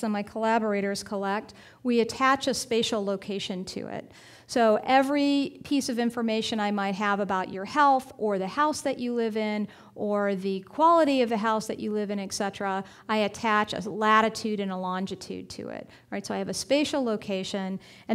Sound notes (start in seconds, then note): none